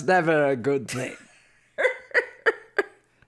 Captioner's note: cackles